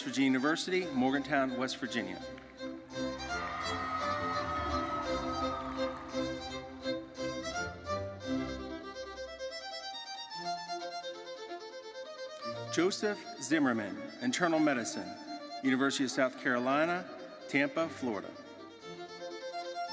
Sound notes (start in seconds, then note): 2.9 crowd cheering; 7.4 orchestral music continues